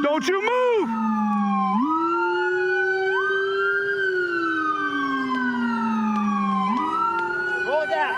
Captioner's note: sirens